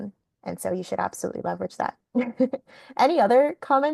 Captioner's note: laughing